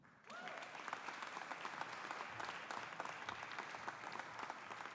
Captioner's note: audience applauding